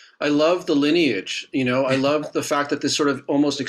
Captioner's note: chuckling